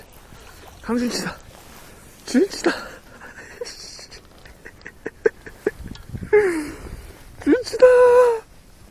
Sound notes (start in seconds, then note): 2.2 laugh